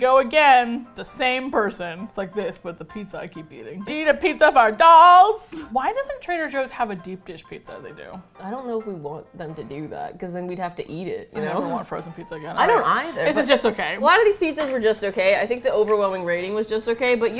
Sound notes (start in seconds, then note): 11.2 laughs; 11.6 with disgust